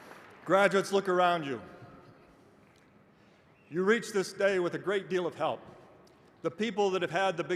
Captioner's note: applause